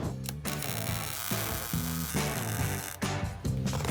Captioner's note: torch sizzling